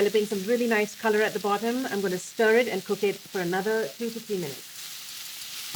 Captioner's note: sizzling